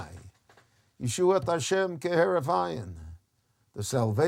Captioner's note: speaks in Hebrew